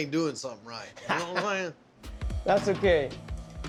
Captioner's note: laughs